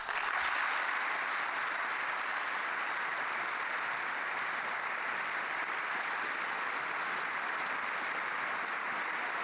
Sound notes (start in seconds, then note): 7.3 applause